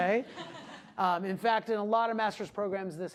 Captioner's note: class laughing